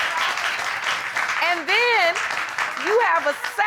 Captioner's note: audience clapping